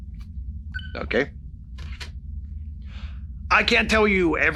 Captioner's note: tweeting sound